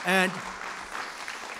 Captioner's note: applause